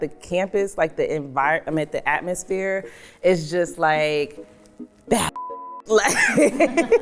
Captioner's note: beep; laughs